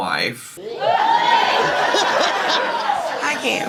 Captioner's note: guests cheering